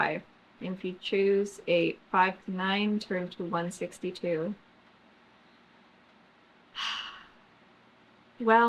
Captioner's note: sighs